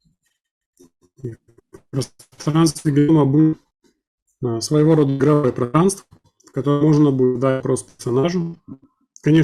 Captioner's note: communication interference